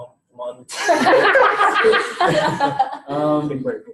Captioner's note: all laughing